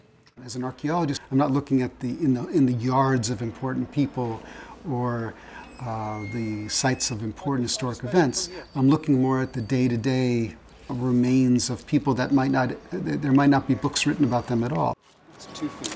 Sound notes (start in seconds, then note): 4.9 gate squeaks; 10.4 car and street noises